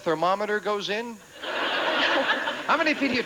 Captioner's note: audience laughing